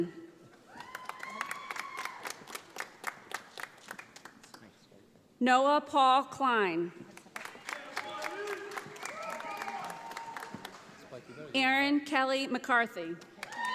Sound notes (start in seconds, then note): 0.6 audience applauding; 7.1 audience applauding